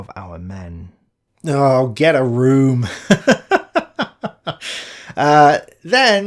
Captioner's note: laugh